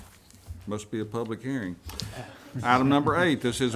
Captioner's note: some chuckling